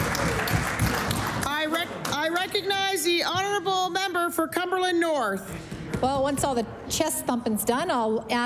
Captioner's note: cheering and Applause